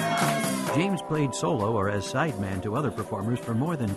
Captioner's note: applause